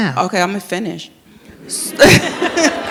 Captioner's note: all laugh